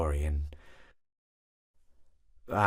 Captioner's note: awkward Silence